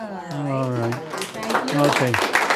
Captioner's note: applause